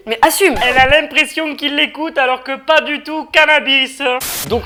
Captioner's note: weird accent